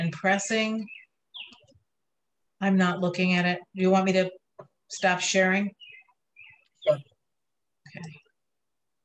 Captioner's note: chirping from a bird